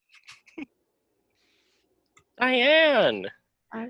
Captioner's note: laughs